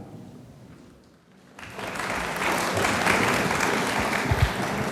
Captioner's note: audience applauds